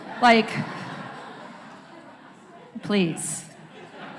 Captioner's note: laughter